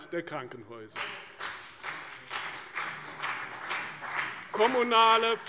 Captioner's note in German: Beifall CDU und BÜNDNIS 90/DIE GRÜNEN